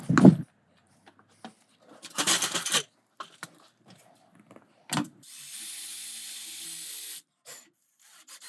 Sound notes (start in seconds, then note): 5.3 drill whirring